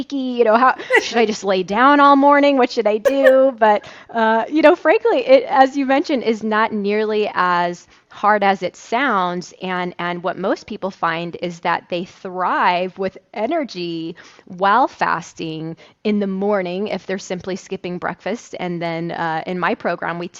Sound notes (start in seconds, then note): 3.0 laughs; 5.5 chuckles